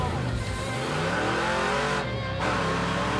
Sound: engine roaring

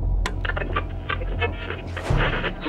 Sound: radio tuning

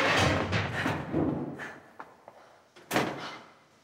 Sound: Anna panting

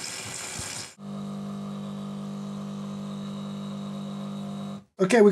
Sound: coffee machine buzzing

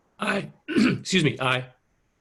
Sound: clears throat

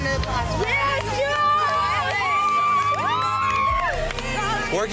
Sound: girls cheering

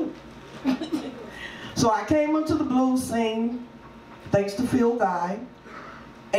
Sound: laughs

